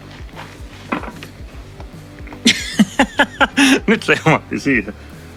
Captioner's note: laughter